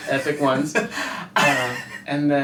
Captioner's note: laughing